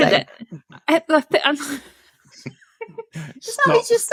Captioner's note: laughing